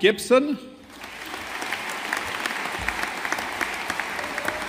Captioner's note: audience applauding